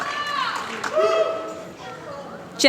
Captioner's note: applause